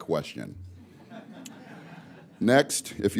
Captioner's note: laughter